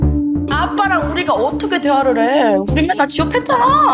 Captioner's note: intense music; speaking Korean